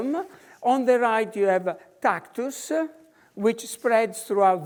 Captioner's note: in foreign language